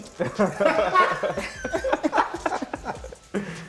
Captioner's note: laughter